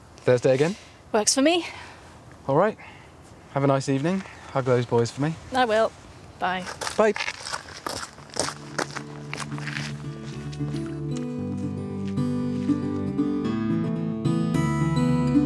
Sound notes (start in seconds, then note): 6.6 footsteps; 8.6 gentle acoustic guitar